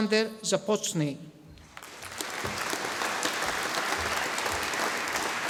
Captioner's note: audience applauding